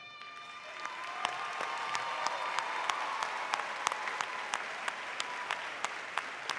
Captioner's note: audience applauding